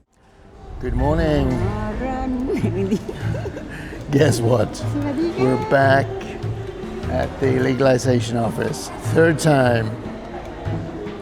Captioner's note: laughter